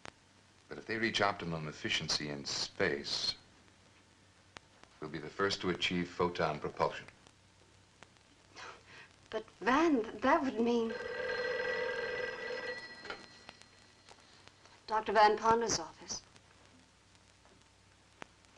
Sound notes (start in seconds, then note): 8.2 Sybil laughs; 10.8 phone rings